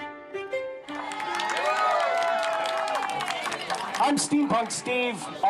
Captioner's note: cheering